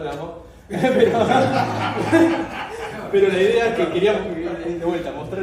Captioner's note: laughter